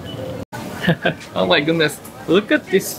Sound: chuckle

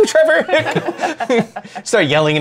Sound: laughter

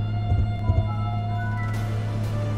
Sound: Windows Startup Sound

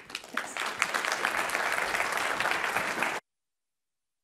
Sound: applause

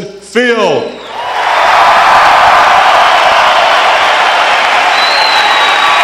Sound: cheering

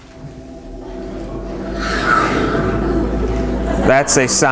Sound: whooshing sound

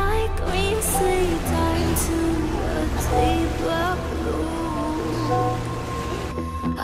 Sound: splashing

